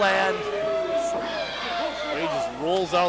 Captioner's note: crowd boos and cheers